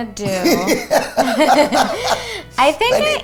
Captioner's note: laughing